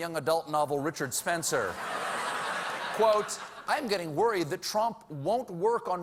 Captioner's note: laughter